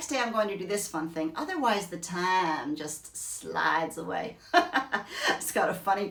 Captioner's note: laughs